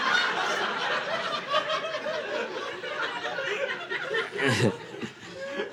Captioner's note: audience laughing